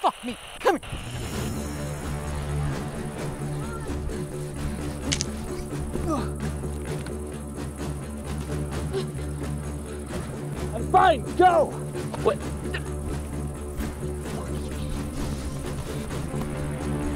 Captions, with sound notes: - Fuck me. Come... (dramatic music) (Caleb grunting) - I'm fine. Go. What?